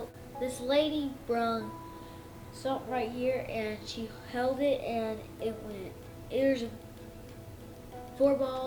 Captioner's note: tapping